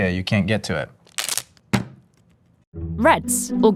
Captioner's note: wrapper ripping; burrito thumping